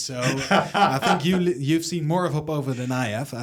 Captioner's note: laughs